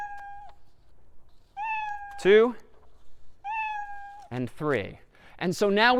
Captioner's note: meowing three times